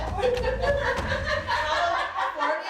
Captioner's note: laughing